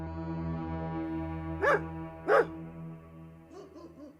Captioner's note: dog barking